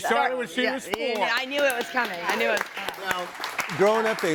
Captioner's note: all clapping